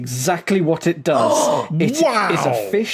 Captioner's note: gasps